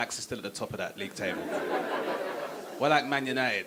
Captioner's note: audience laughing